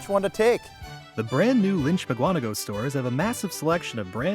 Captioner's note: voiceover